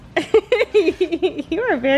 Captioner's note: laughs